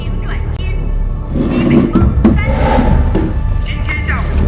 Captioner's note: northwest gentle breeze